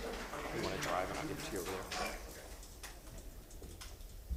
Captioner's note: applause